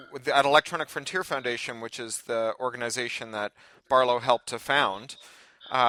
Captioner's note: none